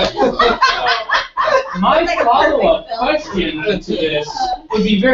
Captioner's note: laugh